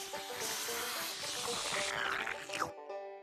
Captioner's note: slurping